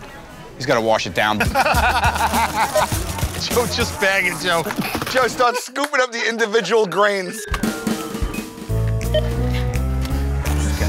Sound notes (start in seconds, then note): 1.3 laughter; 8.7 laughs